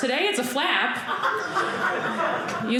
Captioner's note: audience laughing